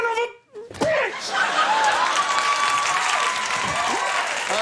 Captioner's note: audience cheers